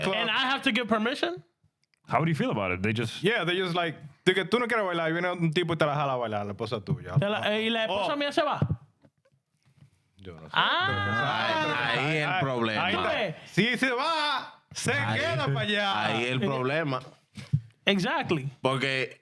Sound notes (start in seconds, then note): 4.2 speaking In Spanish; 19.0 speaking In Spanish